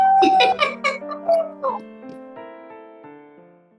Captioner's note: laughs